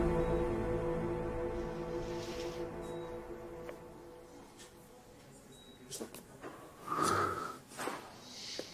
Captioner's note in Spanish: Sonido de telemetría